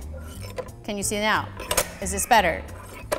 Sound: scraping; scraping

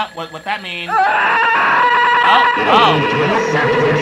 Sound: screams

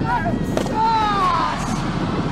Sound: body slams; Chavo shouts; man shouts

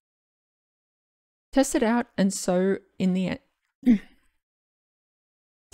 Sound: clears throat

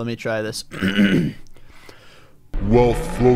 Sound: clears throat

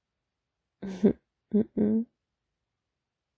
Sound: sleepy goofy laugh

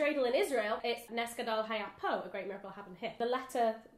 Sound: speaks in Hebrew

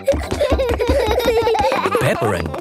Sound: both giggling

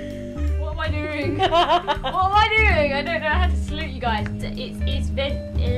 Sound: laughs

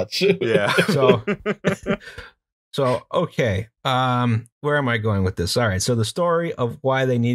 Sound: laughter

